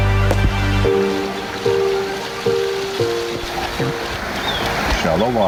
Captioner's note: water cascading